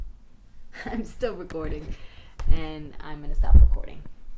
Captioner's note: giggle